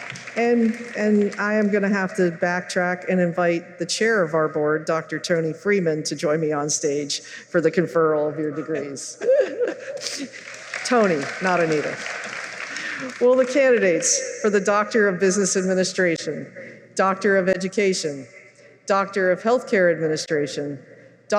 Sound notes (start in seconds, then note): 9.9 applause